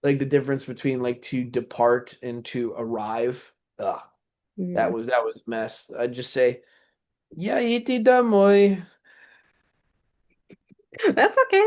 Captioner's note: russian